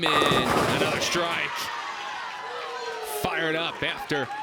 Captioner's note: crowd cheers and applauds